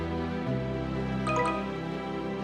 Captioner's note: notification Sound